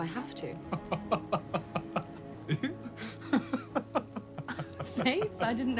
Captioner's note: laughing